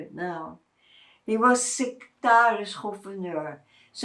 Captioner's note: non-english